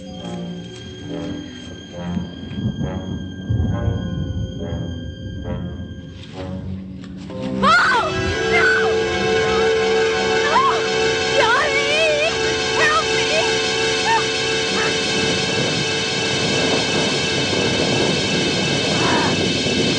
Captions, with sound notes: [Screaming] No! No! Johnny! Help me! Help!